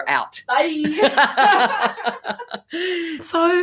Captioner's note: laughing